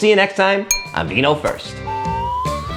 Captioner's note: wine glass clinking; slide whistle blowing